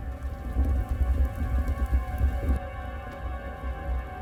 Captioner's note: crackling fire